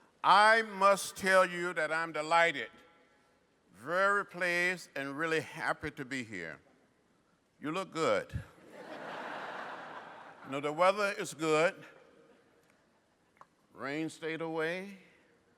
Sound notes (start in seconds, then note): 8.6 laughter